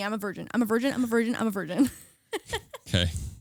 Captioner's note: laughing